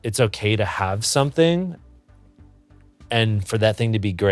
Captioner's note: none